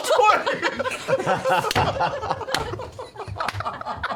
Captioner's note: laughter